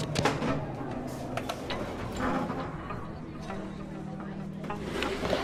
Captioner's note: skateboard clacks